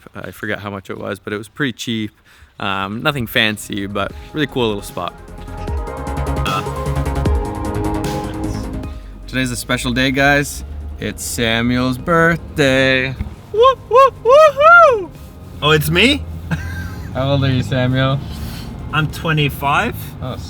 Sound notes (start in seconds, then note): 6.5 inspiring music; 17.0 laugh